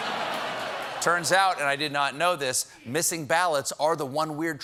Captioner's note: laughter